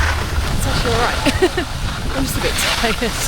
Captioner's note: laughs